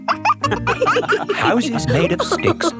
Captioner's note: wolves laughing